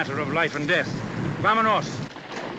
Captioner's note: in spanish